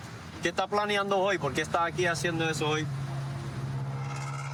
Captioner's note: speaking spanish